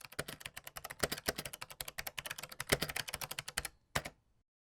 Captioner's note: typing noises